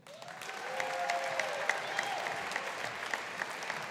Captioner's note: audience applauding